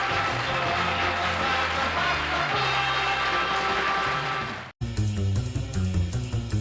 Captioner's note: applause; theme music